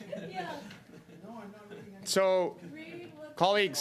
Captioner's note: laughter